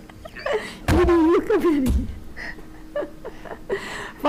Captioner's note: members laughing